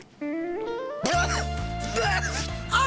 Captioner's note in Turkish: Öksürüyor